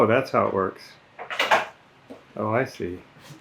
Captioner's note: metal clicking